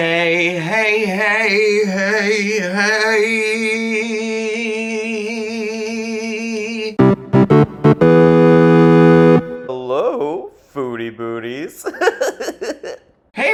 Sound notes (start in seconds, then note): 7.0 upbeat intro sound effect; 11.8 laughs